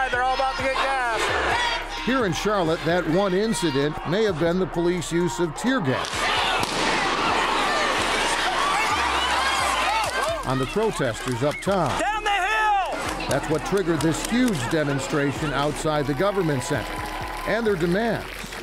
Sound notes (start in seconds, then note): 6.0 gun bangs